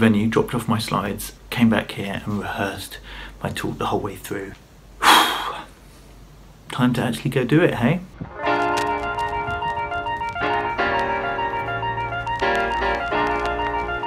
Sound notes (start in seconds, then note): 5.0 exhales; 8.2 upbeat music